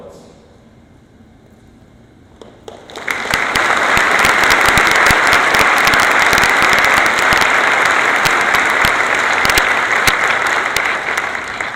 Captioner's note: applause